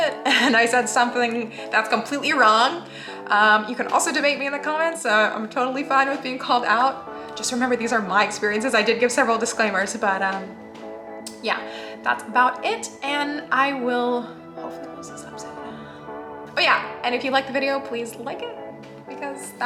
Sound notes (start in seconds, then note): 13.8 whisper